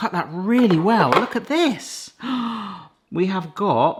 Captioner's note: gasps